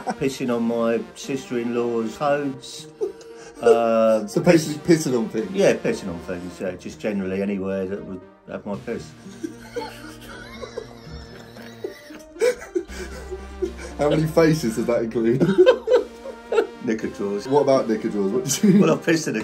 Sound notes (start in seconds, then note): 2.6 laughing; 9.1 both laughing